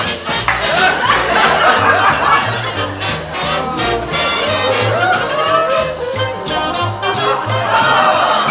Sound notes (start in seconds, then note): 0.5 background laughter continues